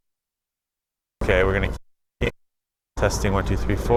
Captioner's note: audio pops